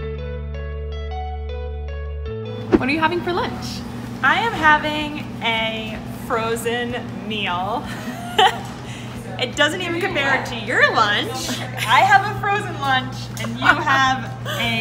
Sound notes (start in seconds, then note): 0.2 upbeat music; 8.0 laughing